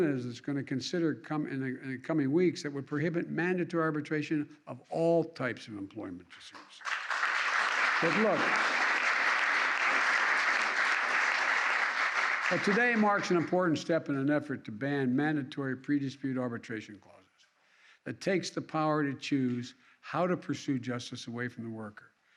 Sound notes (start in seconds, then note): 6.5 applause